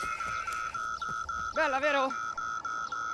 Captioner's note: loud beeping sound; shouting